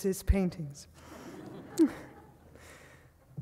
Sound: audience laughing

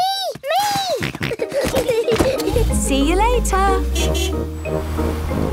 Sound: snorting; kids giggling; honking

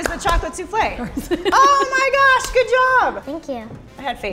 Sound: laughs

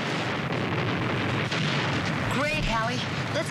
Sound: explosion

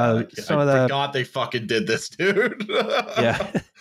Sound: laughs

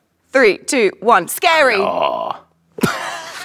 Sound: Ben growls; Jessie laughs

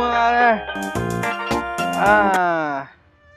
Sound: phone ringing

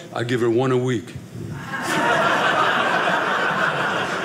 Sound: audience laughing

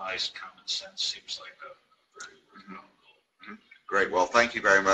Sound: murmurs

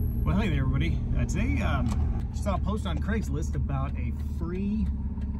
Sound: none

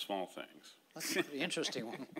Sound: laughing

